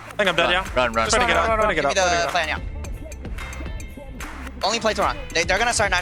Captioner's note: teammates communicating